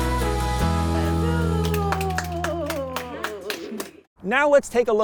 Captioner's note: woman cheers; everyone claps